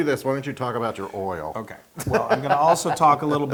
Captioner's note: laugh